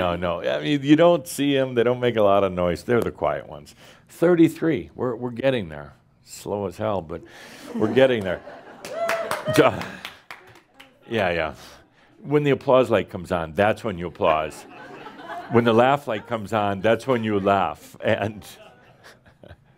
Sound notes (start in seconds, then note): 9.7 a few claps; 18.2 Adamus chuckles